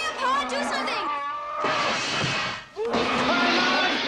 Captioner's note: crash